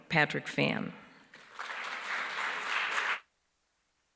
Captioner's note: applause